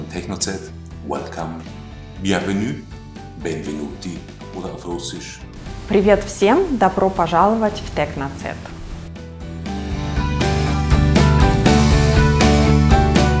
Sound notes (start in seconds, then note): 4.5 welcomes students in Russian words